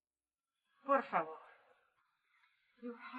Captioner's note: foreign language